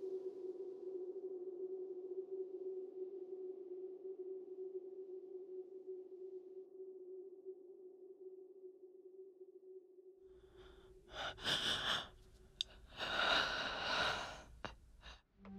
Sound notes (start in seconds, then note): 10.4 shocked breathing